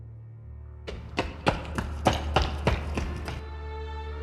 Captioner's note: running on concrete